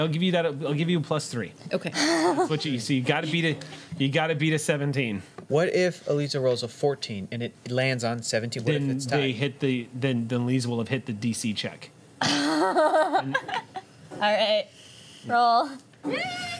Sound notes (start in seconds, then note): 12.2 laughter